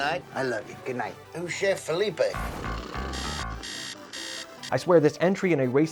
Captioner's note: alarm sound